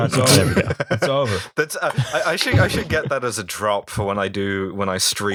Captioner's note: laughter